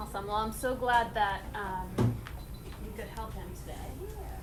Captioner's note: beeping